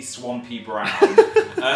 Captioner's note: giggles; laughs